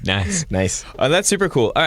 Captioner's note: laughter